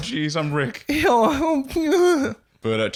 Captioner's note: whimpering, as Morty